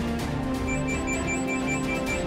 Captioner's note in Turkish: Telefon çalıyor